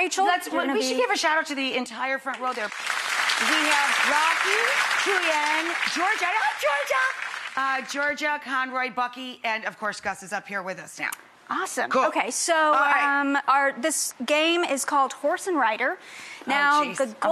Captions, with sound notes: We should give a shout out to the entire front row there. (applause) We have Rocky, Julian, Georgia, Conroy, Bucky, and of course, Gus is up here with us now. Awesome. Cool. So this game is called Horse and Rider. Oh geez, I'm so nervous.